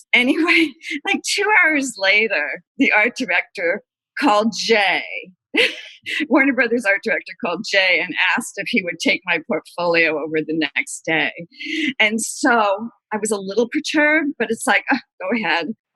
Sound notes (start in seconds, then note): 0.6 laughter